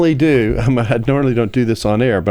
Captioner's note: laughs